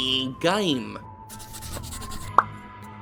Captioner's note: pencil scratching